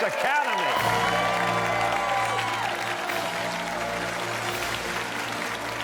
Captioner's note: cheers and applause